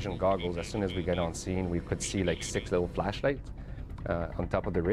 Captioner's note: voiceover